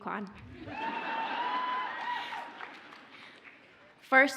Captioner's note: audience cheers